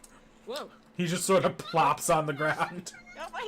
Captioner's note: crying